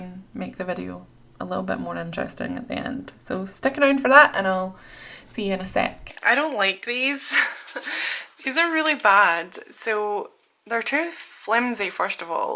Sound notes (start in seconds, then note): 7.9 laughs